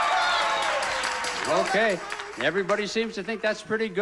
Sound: audience cheering

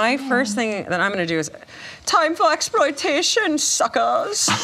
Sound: imitates German accent

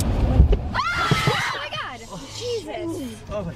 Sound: screaming

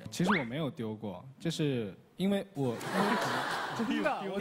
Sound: laughter

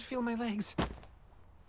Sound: soft whumph

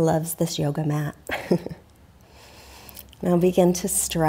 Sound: laughs

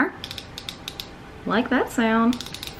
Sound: eyeliner clicking

